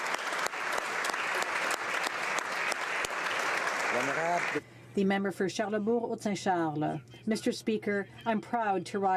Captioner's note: applause